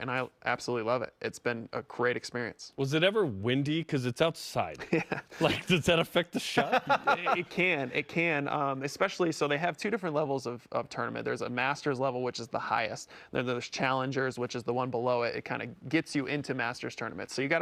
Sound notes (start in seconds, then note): 6.3 chuckling; 6.4 laughs